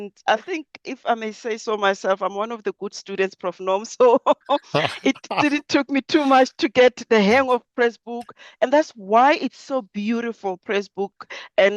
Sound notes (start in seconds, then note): 4.4 laughs